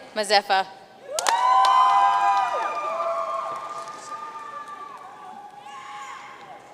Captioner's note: audience cheering and applauding